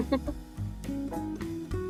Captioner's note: laughs; gentle music